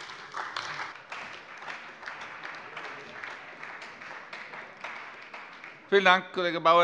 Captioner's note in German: Beifall bei der CDU und dem BÜNDNIS 90/DIE GRÜNEN